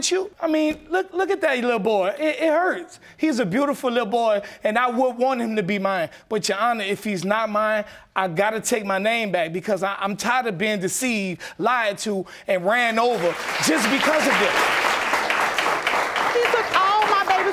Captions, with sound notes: I mean, look at that little boy, it hurts. He's a beautiful little boy and I would want him to be mine. But, Your Honor, if he's not mine, I gotta take my name back, because I'm tired of being deceived, lied to and ran over just because of it. (AUDIENCE APPLAUDING) He took all my baby's stuff.